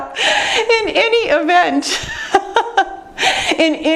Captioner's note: laughs